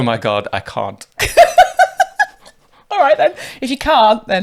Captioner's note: laughing